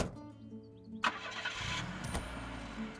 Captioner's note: none